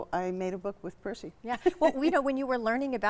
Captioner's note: chuckling